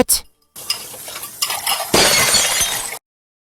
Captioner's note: glass breaking